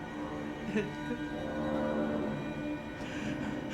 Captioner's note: crying softly